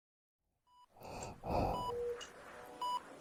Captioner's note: beeping sounds